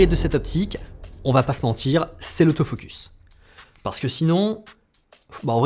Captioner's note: hm-hmm